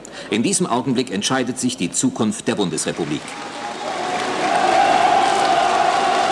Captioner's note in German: Applaus und Jubel